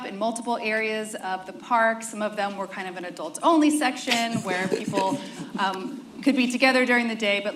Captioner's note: laughter